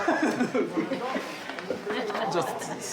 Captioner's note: laugh